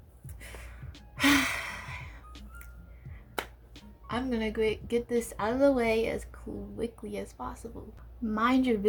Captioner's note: sigh